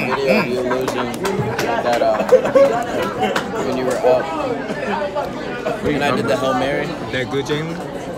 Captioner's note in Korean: 잡담